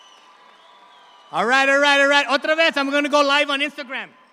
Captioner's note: speaks in Spanish